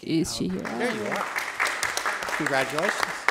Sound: attendees applauding

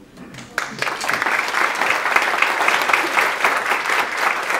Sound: audience applauds

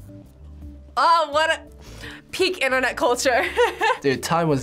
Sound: laughs

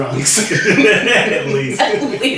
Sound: bursts out laughing

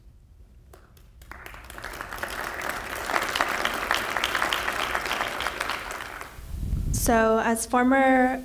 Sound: audience applause

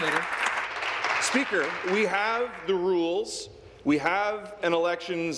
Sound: applause

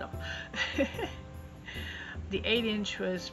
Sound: chuckle

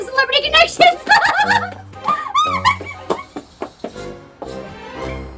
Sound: laughing excitedly

